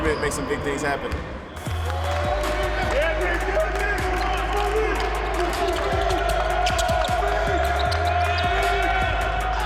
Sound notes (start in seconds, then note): 1.6 cheering; 4.2 coach yells